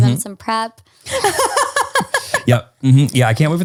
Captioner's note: laughs